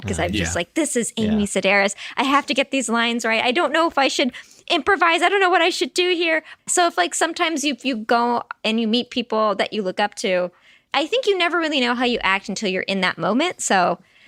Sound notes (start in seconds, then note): none